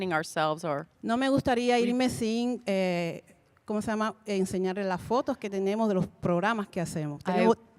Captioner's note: Spanish language 00:39:47